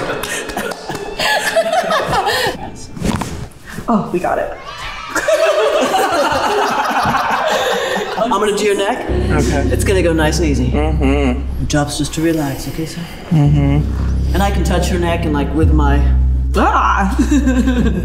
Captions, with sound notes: Exhale. Oh! We got it. (crowd cheers) - I'm going to do your neck. It's going to go nice and easy. - Mm-hmm. - Your job's just to relax, okay Sam. - Mm-hmm. - And I can touch your neck and like with my... - Ah!